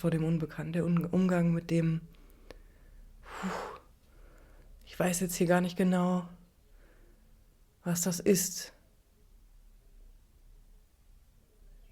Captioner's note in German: seufzt